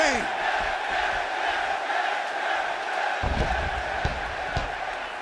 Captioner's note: fans chanting